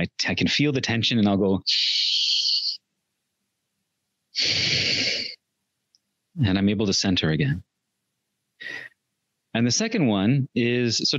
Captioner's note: inhales, exhales